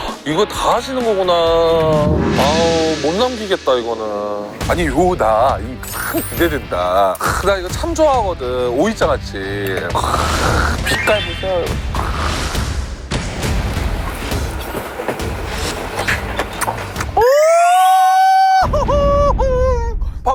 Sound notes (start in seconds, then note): 15.9 Crunch